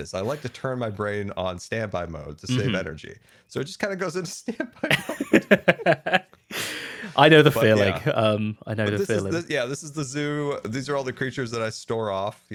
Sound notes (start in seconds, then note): 4.7 laughter